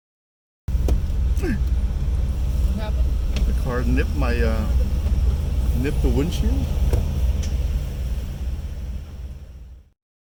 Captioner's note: bump